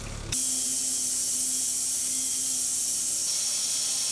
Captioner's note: machine whirring